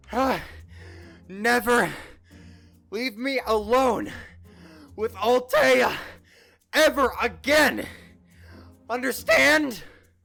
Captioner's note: panting